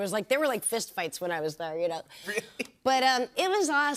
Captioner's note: chuckles